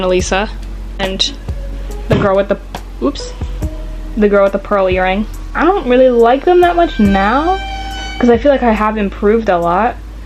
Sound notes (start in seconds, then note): 2.1 thud; 6.6 stressful sound effect